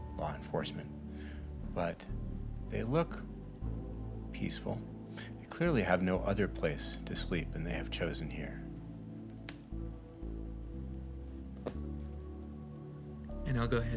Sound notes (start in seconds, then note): none